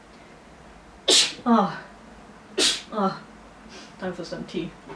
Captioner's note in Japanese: クシャミ